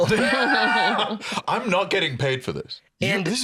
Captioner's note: laughs